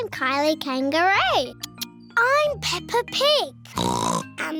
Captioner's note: oinks